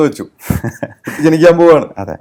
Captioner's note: laughs